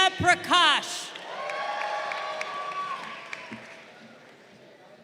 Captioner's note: crowd cheering